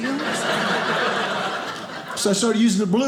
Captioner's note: audience laughing